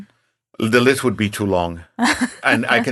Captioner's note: laughing